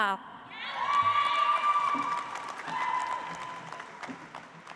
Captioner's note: audience applauds